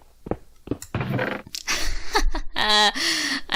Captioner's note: sad laughter